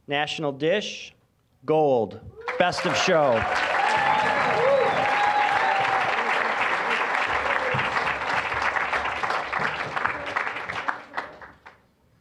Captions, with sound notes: National dish... Gold, Best of Show. (applause, cheering)